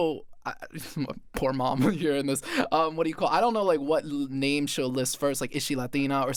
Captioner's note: chuckles